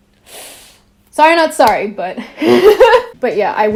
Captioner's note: laughs